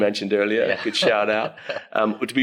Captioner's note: laughs